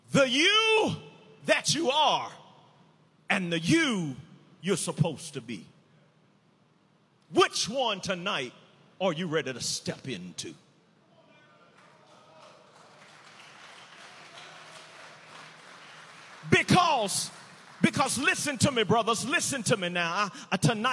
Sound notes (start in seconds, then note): 11.3 prisoners cheering